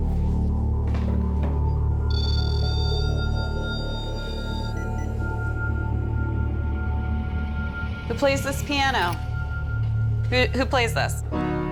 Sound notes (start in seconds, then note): 2.0 beeping; 4.7 ominous music; 11.4 playing notes